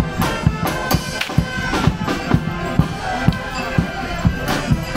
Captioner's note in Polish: Uderzenie batem o ziemię